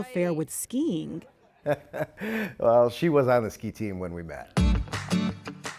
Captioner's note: laughing